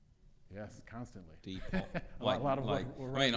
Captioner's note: laughs